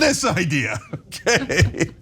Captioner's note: laugh